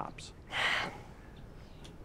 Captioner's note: sighs